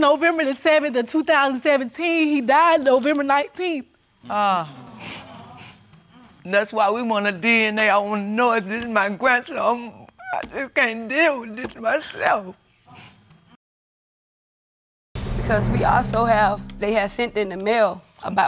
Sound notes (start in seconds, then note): 4.3 audience gasps